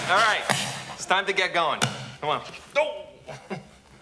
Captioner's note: chuckles